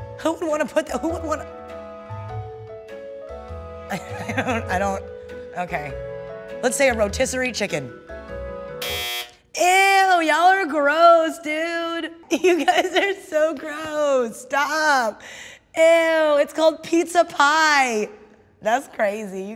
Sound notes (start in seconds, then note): 2.1 fun music; 8.8 buzzer sounding